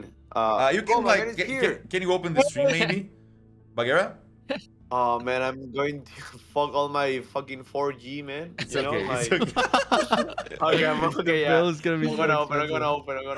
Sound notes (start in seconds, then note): 8.6 laughter